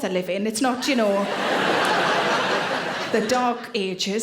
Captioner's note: audience laughing